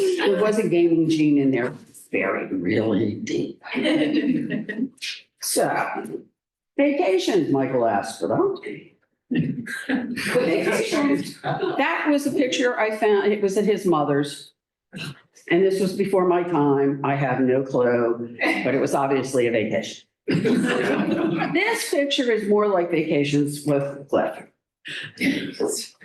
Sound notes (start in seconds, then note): 0.0 laughter; 20.3 laughter